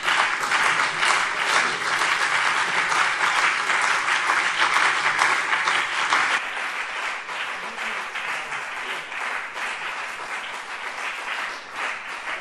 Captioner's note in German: Beifall BÜNDNIS 90/DIE GRÜNEN und CDU